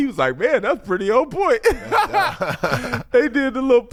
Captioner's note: laughs